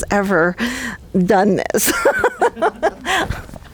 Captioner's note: laughter